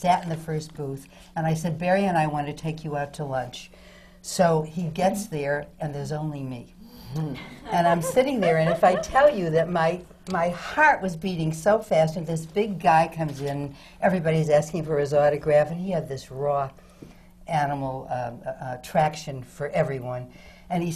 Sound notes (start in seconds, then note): 7.4 laughter from the panel